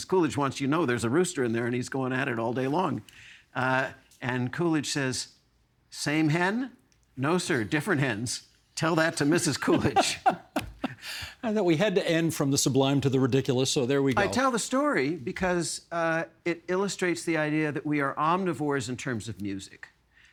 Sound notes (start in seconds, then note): 9.3 laughing